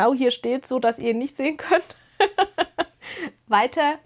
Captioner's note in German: gelächter